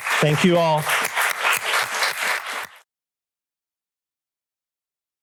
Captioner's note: applause